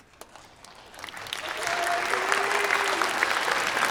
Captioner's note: applause